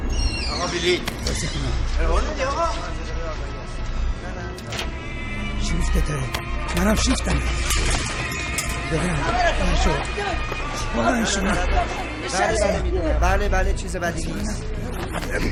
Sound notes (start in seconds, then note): 4.6 door opening